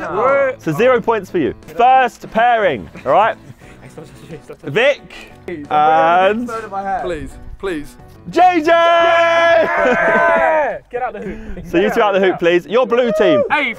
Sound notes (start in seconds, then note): 8.3 men cheering